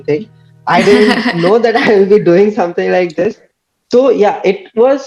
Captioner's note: laughs